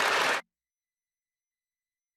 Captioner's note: some Applause